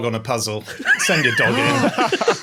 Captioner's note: others laughing; gasps